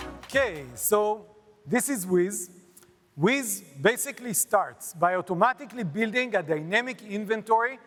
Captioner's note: applause